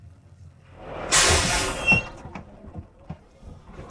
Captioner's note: school bus air brakes hiss